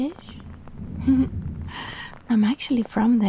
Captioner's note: she giggles